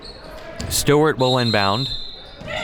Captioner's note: whistle blows